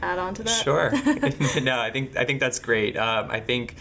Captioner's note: laughing